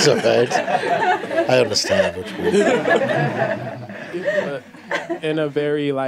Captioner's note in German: Lachen